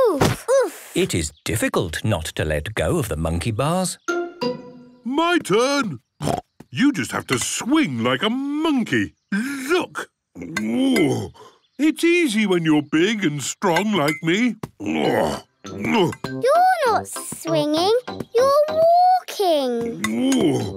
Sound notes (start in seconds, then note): 6.2 snorts; 10.3 grunts; 14.8 grunts